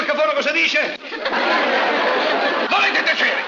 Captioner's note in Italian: risate